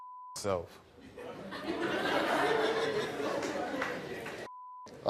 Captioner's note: audience laughing